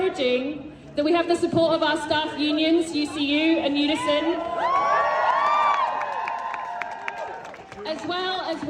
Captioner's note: crowd cheers